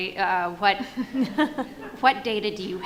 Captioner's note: audience laughs